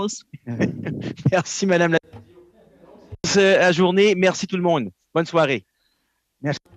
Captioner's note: laughter